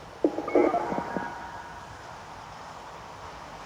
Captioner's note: telephone noise